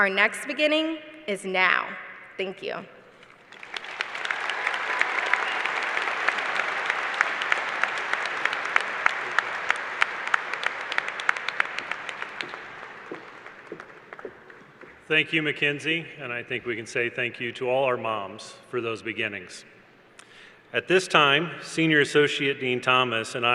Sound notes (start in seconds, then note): 3.3 applause